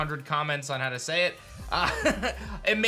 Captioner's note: chuckles